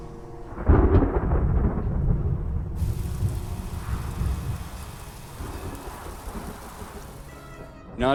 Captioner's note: thunder crashing